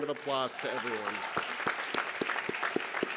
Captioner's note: applause